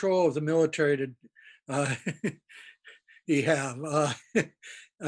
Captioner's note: laughs